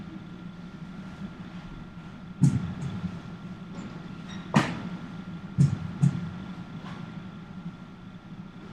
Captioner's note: heart beats